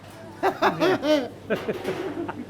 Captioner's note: both laugh; laughs